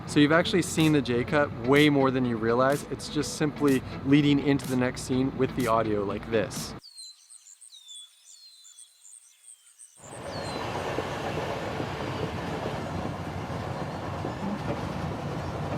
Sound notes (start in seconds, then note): 6.7 birds chirping; 10.1 train passing